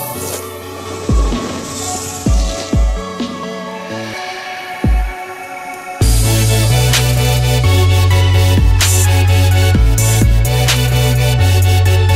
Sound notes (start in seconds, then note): 0.0 tires scraping dirt